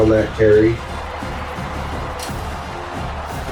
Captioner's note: crowd Noises